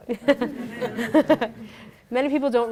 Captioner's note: people laughing